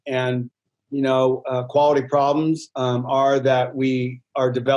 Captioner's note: none